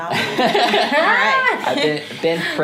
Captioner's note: group laughs